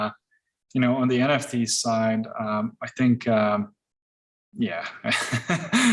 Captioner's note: laughs